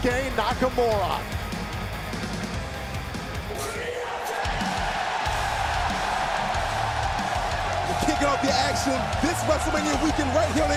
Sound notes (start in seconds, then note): 4.5 crowd cheering